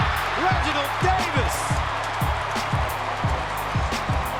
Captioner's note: cheering